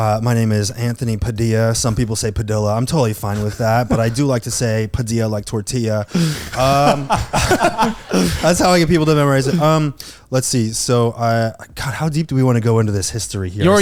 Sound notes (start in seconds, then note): 6.1 laughing